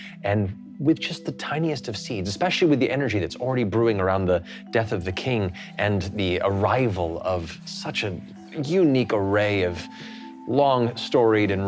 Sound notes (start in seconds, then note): none